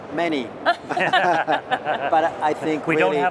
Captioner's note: laughter